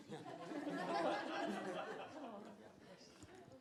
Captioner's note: laughter